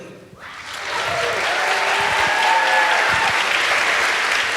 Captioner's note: audience applauds